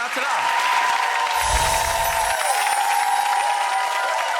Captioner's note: audience clapping